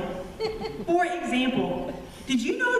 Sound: laughter

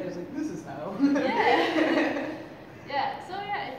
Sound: laughter

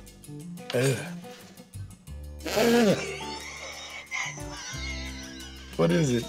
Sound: laughs

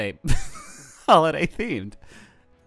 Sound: laughing

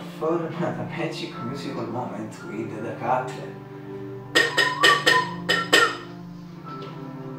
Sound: whistle

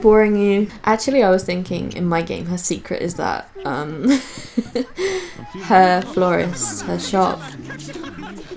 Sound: giggles

